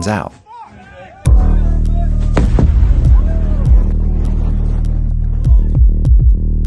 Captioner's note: crowd yelling; suspenseful music